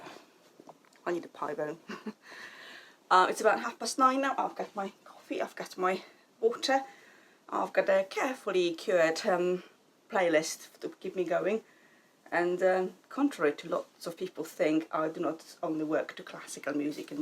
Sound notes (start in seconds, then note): 1.8 chuckles